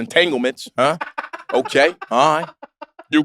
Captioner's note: laugh